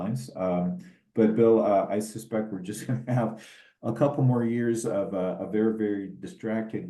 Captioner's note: laugh